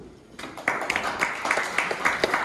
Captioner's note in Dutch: applaus